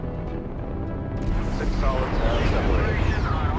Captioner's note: dramatic music; rocket boosters whooshing